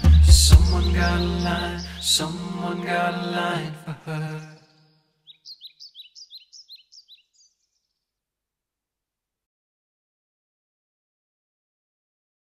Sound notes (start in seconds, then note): 5.2 birds chirping